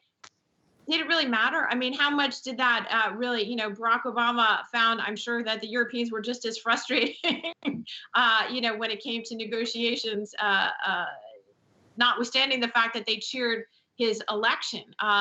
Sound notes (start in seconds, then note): 7.2 laughs